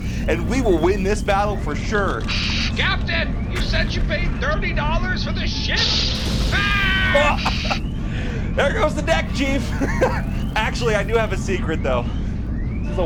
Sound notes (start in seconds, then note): 5.8 explosion